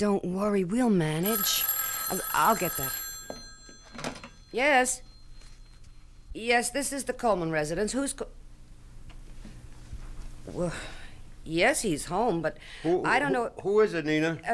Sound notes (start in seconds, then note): 1.2 telephone rings